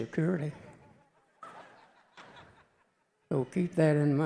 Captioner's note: audience chuckling